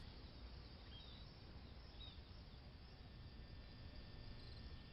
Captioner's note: crickets chirping